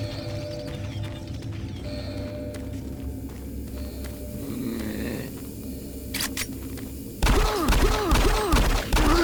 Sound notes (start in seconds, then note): 4.3 groans; 7.2 gunshots